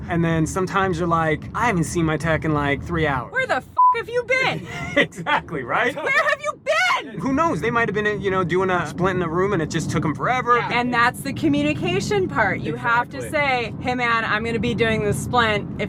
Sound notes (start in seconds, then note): 3.7 beep; 4.4 laughs